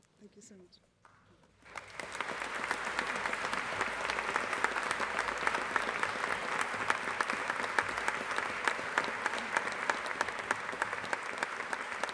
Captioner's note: applause